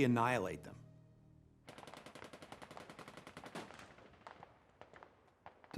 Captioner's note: gunfire